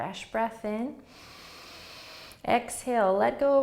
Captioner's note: inhaling